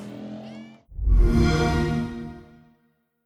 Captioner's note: xbox sound